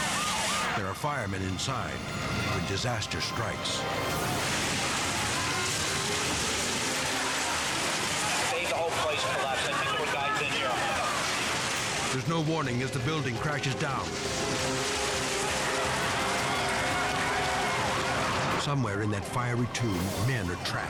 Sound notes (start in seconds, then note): 0.0 siren blaring; 4.8 building collapses; 14.3 building collapses